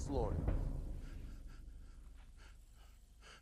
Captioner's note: sobbing